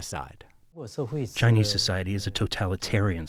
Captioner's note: through translator